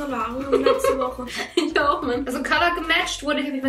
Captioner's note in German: lacht